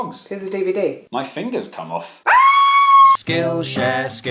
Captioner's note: screams